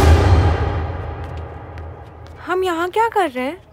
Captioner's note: Footsteps